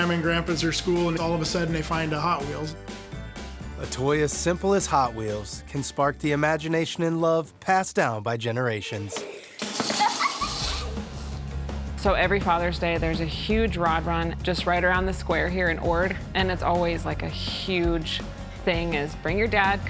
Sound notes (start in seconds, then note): 2.8 upbeat music; 9.7 kids laughing